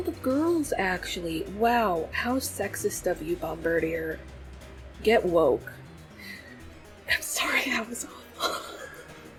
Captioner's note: laughs